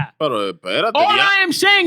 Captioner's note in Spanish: Hablando en idioma extranjero